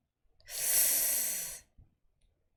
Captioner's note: sharp inhale